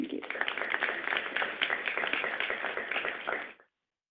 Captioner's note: audience applauds